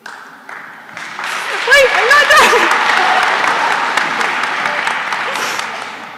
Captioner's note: applause